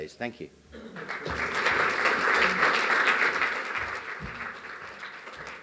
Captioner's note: audience applauds